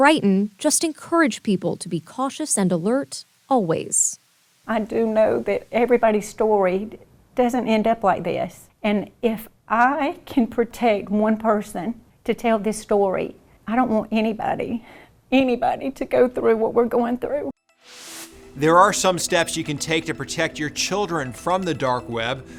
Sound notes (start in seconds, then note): 17.8 transition whooshes